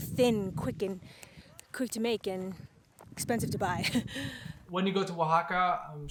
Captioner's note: chuckles